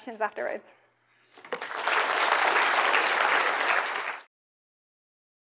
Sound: applause

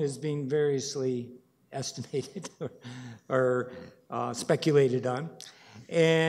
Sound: chuckles

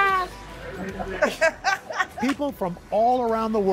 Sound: laughter

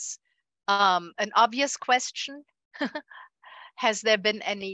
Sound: chuckles

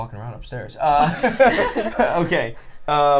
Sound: all laughing

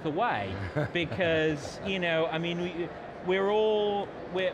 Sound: laughs

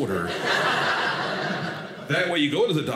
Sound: audience laughing

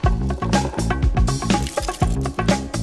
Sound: upbeat music; berries rattling; upbeat music continues

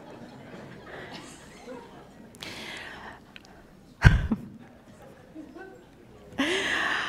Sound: laughter

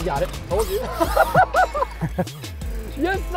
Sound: laughing

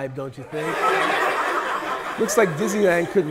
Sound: people laughing

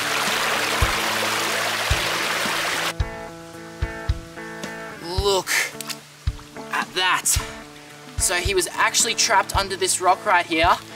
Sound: water flowing sound

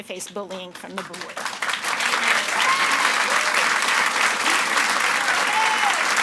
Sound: audience applauds and cheers

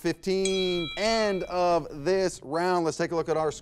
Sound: bell rings

